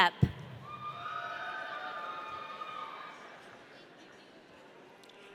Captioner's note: audience cheering